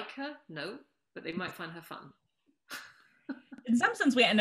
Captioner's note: laughs